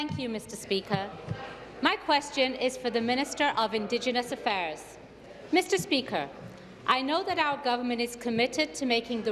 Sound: some Applause

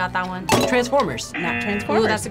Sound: bell dinging; klaxon sounding

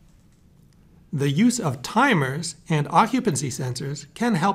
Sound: voiceover

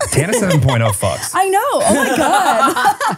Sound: laughing

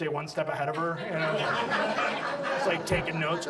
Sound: audience laughs

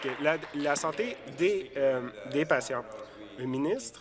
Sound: applause

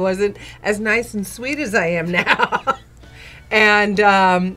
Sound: laughs

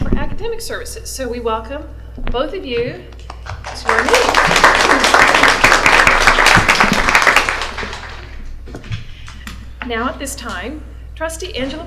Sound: applause

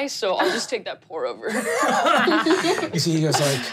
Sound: laughing

